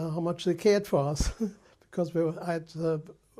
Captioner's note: laughs